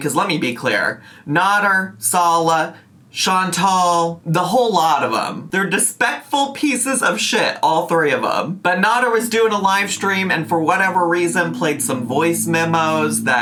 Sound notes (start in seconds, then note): none